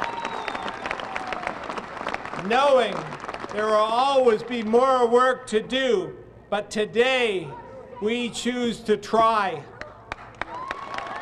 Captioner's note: applause